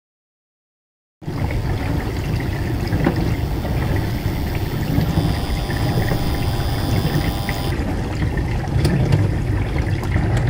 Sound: sound of dishwasher machine

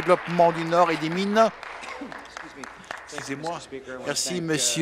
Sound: applause

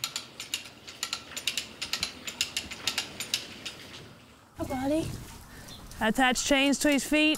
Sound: sound of cranking the cow jack

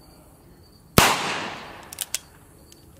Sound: gun fires

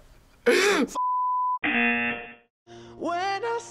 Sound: laughs; buzzer rings

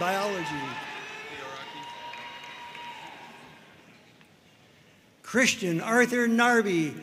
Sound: audience cheering and applauding

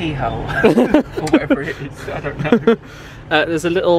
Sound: laughs

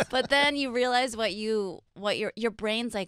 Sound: laughing

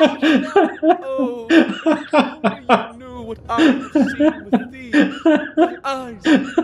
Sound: as Musky laughs

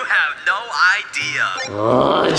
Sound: device beeping; grunts

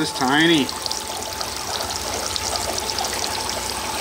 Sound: water running

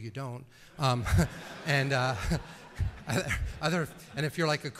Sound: laughter

